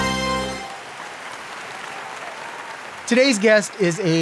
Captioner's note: audience applauds